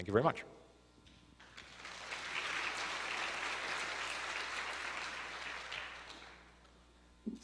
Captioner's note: applause